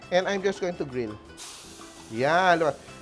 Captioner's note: sizzles